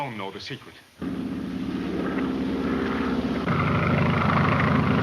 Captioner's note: engine droning